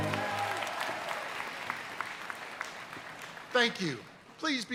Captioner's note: audience applauding